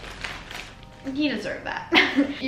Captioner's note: giggles